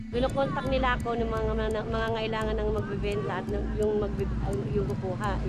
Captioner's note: speaks in foreign language